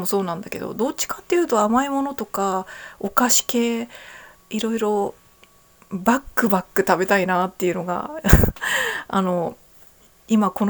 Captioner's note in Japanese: 笑い